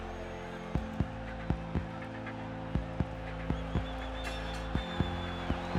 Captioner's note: cheering